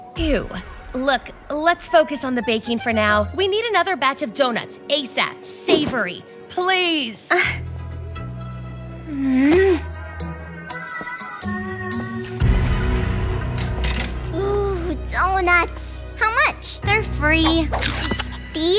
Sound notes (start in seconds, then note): 9.1 groans